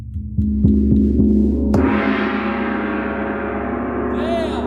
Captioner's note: impressive gong noises